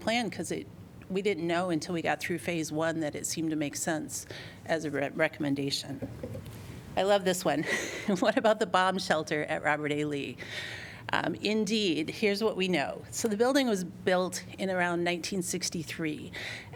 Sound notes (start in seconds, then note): 7.7 laughter